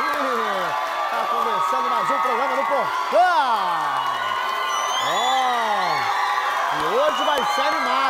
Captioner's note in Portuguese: aplausos